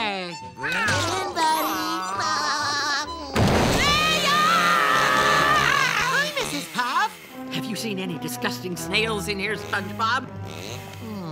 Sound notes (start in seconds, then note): 2.0 laughing; 3.8 screaming